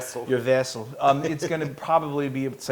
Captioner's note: laugh